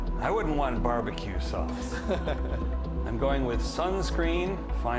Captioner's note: laughs